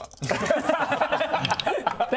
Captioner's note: unsympathetic laughter